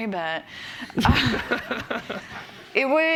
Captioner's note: laughter